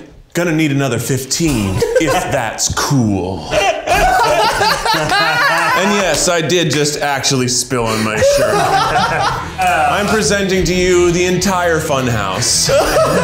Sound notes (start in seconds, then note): 3.4 laughing